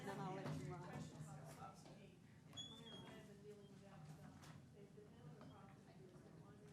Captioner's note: people chatting amongst themselves